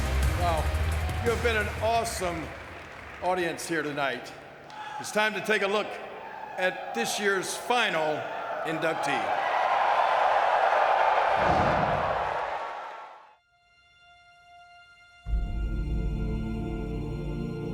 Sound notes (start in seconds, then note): 9.4 audience cheering; 13.5 mellow music